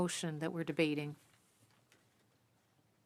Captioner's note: speaking French